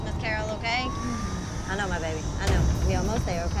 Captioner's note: moaning